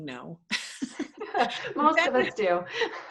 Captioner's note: laughing